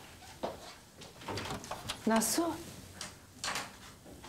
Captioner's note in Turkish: kapı açılma sesi